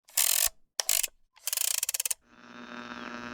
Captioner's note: clockwork Winding; radio being tuned